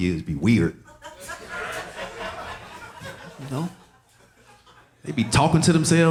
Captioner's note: audience laughing